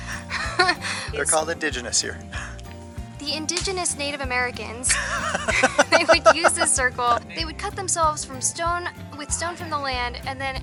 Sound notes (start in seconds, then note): 4.9 laughter